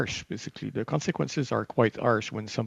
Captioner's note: speaking French